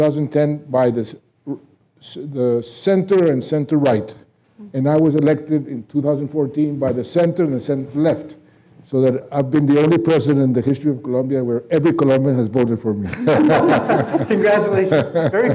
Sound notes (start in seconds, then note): 13.1 laughing